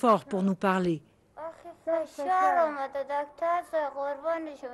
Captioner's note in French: en langue étrangère